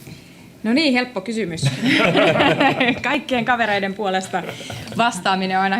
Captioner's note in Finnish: naurua